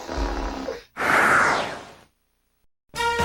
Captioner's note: man moaning and farting; whoosh!